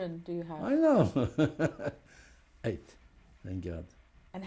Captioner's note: laughs